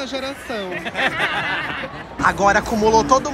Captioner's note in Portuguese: risos